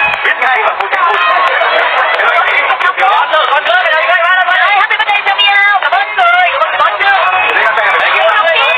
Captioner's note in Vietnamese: Vỗ tay